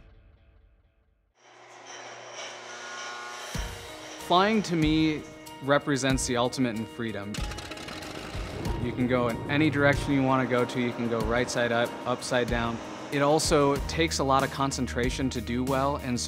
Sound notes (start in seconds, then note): 7.3 rotor thrums